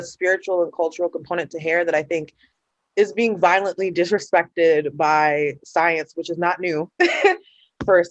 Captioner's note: laughter